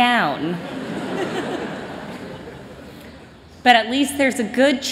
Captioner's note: laughter